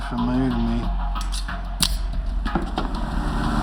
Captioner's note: switchblade opens